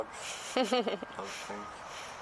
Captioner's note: laughter